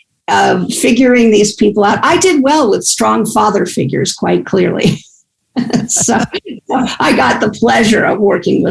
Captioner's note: laughs